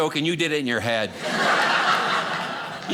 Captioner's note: audience laughing